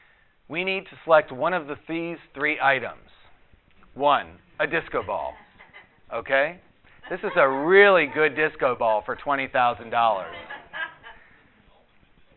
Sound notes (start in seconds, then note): 5.3 audience laughter; 10.0 more audience laughter